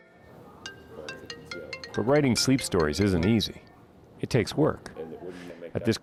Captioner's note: phone ringing